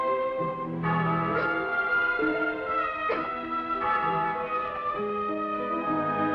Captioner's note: dramatic ominous music; girl coughs; bell tolls; dramatic ominous music